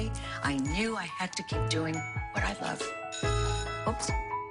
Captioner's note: alarm bell rings